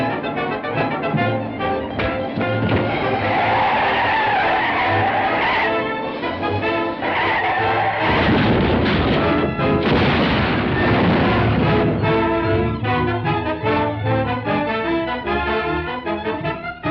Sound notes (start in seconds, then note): 3.4 tires squealing; 8.2 crashing noise